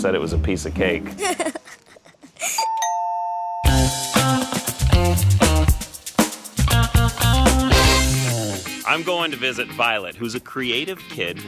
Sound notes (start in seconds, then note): 1.1 laughter; 2.6 door bell rings; 3.6 upbeat music